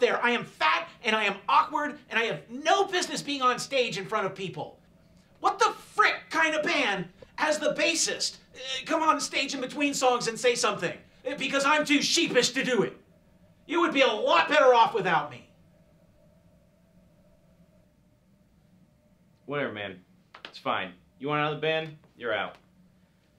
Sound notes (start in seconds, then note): none